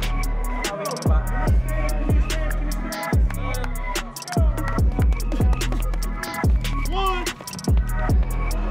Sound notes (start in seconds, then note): 3.2 clapping